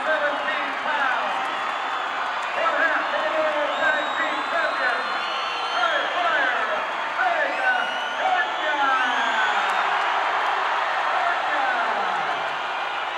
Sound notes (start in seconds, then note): 8.5 crowd cheers